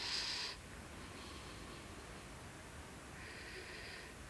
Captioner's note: breathing